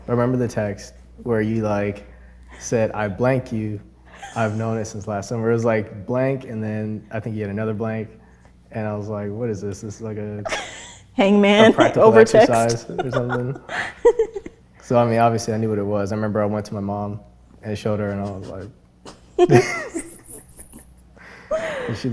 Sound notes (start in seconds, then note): 11.6 laughs; 19.0 both laugh